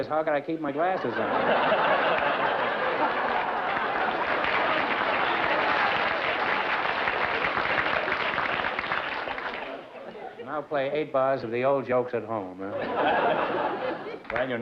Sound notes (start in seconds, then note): 0.8 laughter; 3.8 applause